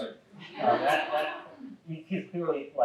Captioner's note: audience laughing